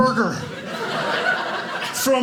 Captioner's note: audience laughing